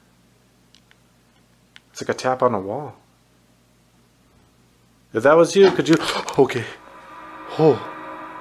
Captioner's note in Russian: звук нажатия